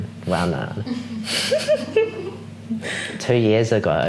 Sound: girls giggling

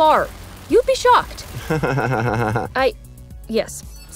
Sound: giggles

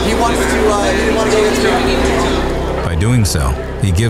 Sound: engine noises drown out speaking

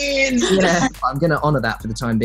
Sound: laughing

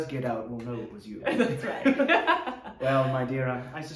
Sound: laughing

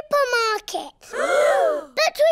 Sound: all gasp

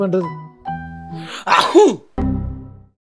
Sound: Nallasivam coughs

